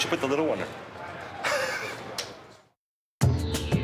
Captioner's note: laughing; upbeat music